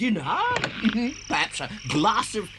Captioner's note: chuckles